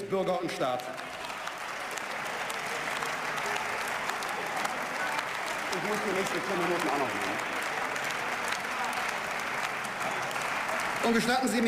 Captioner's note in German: Beifall